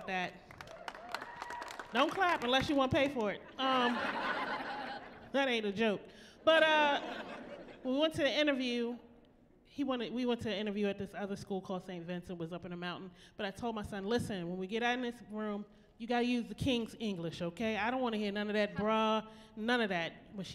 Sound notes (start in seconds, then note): 0.4 applause; 3.7 laughing